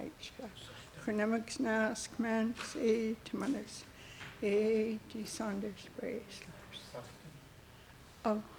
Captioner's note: speaking Hul'q'umi'num